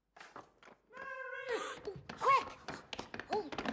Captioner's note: gasps